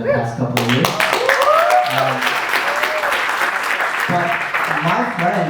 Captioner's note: audience applause